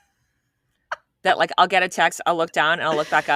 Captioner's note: laughing